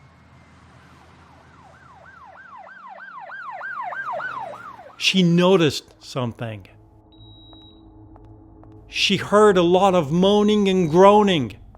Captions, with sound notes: (siren blaring) she noticed something. (tense music) (monitor beeping) She heard a lot of moaning and groaning